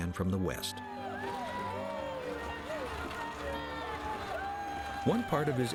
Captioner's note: crowd cheering